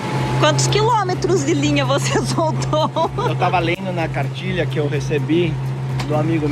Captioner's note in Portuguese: risadas